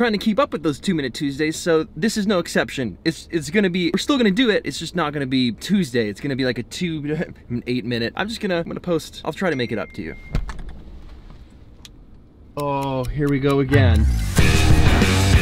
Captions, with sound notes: trying to keep up with those Two Minute Tuesdays, so this is no exception. It's gonna be-we're still gonna do it, just not gonna be Tuesday. It's gonna be like a two, eight minute. I'm just gonna, I'm gonna post. I'm try to make it up to you. (Pinging) Oh, here we go again.